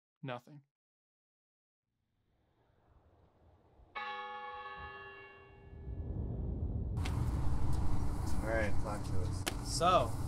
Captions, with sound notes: Nothing. [Church bell tolls] So, alright, talk to us.